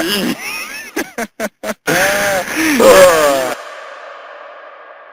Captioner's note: laughs; both laughing